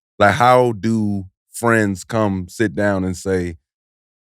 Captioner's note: none